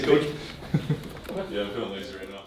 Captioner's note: chuckles